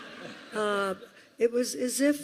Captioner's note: laughter